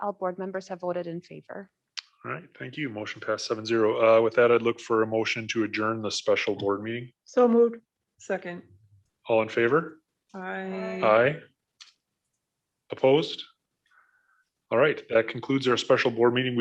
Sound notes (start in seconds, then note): 13.7 silence